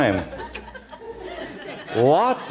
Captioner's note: laughter